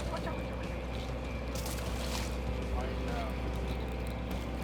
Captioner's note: crew chatting